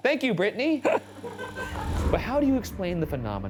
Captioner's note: laugh